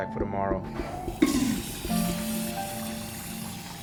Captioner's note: toilet flushing